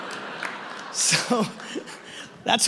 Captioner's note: audience laughing